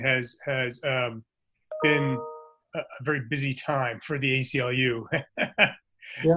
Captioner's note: laughs